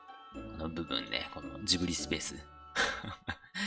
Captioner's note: haha